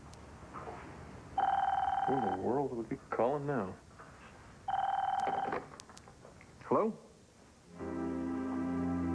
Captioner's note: telephone rings